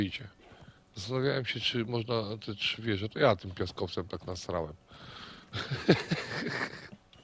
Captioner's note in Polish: śmiech